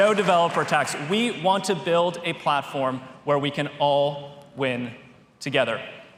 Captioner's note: applause